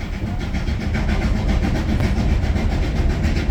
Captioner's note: puffing of a steam train